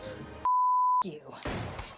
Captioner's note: beep; gunshots banging